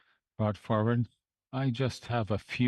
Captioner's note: speaking French